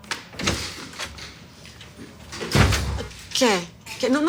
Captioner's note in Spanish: Sonido de la puerta